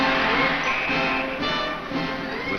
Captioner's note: whistle blows